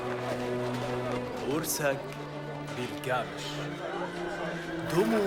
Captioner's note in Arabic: الصوت المنطوق البدوي